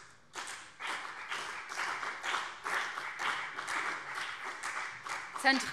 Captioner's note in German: Beifall BÜNDNIS 90/DIE GRÜNEN und CDU